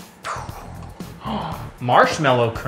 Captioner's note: gasp